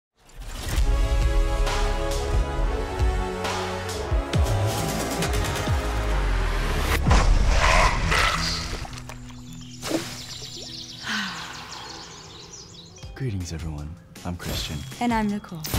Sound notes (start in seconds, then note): 9.6 birds chirping; 11.0 deep breathing